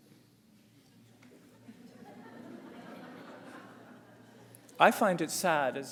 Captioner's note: audience laughs